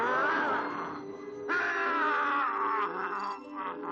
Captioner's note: werewolf groaning